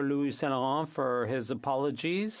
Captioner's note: speaking French